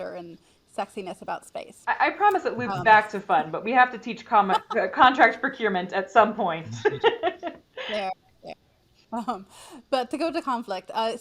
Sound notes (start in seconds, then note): 6.6 laughs; 6.6 chuckles